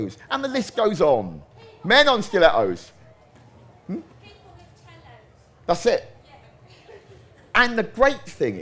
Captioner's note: crowd noise